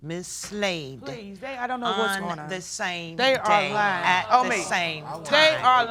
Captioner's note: protesting